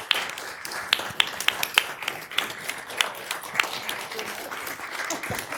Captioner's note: applause